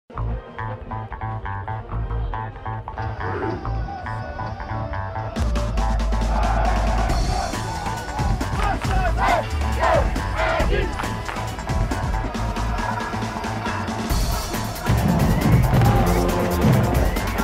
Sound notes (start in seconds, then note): 0.0 upbeat music playing; 3.0 grunting; 6.1 cheering